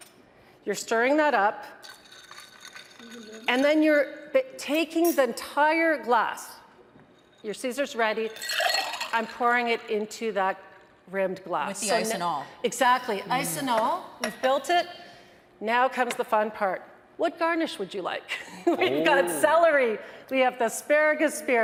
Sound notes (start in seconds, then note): 8.2 ice clinking; 18.6 laughs